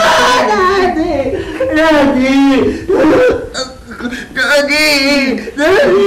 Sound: screaming; sobbing

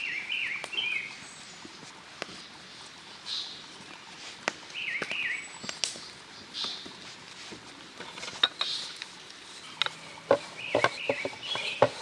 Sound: birds singing

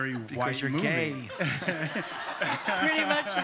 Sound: laughter

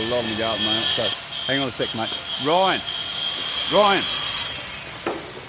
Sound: grinder whirrs, then stops

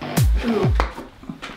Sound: dramatic music; splat

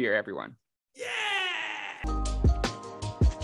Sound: screams; upbeat music

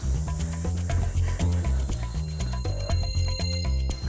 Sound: deep breathing live

